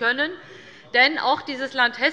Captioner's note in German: Unruhe - Glockenzeichen des Präsidenten